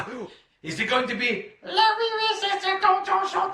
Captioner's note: foreign language